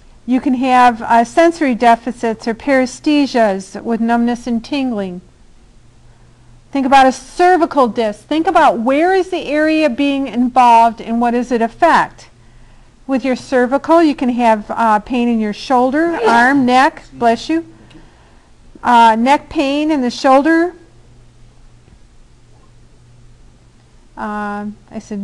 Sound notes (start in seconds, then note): 16.0 student sneezes